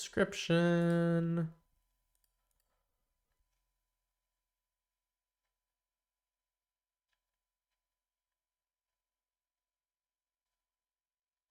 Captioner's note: silence